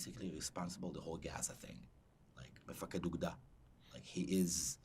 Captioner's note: hebrew